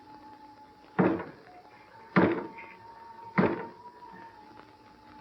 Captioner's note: knocking